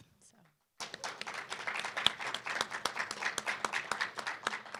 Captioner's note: applause